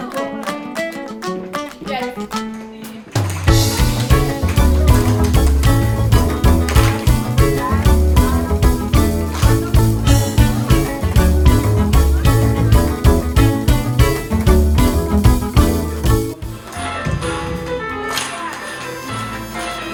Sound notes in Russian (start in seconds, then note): 0.9 аплодисменты